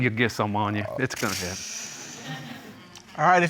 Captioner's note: sighs